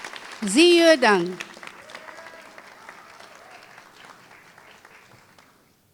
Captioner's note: applause